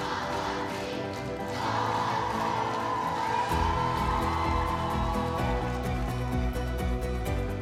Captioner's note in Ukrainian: оплески